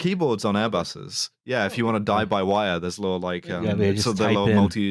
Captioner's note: chuckles